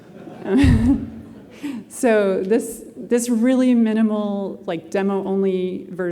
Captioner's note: laughter